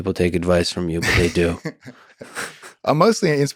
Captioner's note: Craig laughs